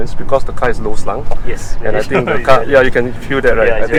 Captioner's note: laughs